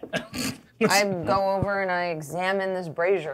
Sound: co-hosts laughing

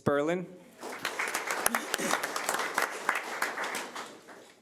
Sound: audience applauding

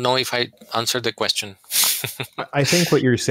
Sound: laughter

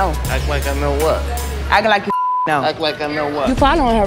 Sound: beep; beep

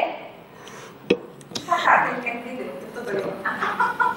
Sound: laughs

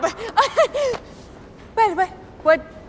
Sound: nervous chuckle

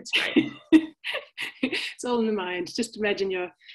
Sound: chuckling

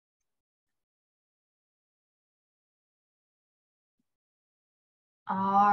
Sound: silence

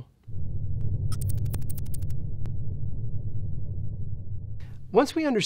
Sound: electronic typing

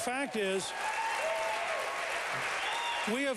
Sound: applause

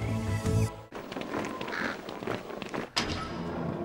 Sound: boots marching; metal door creaking

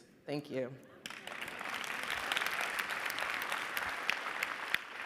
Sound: audience applauding

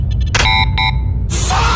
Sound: access denied beep

